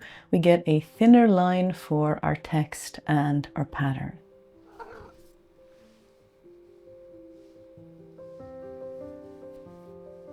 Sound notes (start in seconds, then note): 4.6 cat chirrps